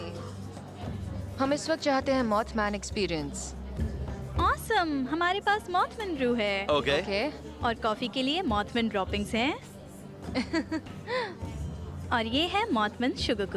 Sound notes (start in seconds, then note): 10.3 laughing